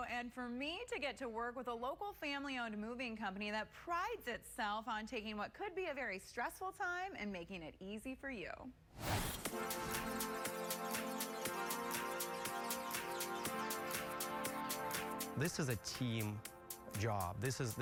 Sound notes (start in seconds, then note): 8.9 logo whooshes; 9.0 bright energetic music